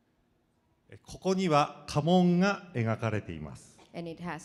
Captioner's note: speaking foreign language